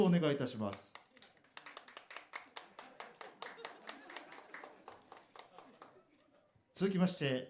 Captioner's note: sparse applause